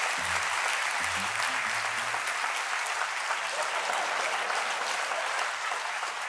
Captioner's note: applause